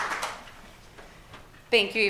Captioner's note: applause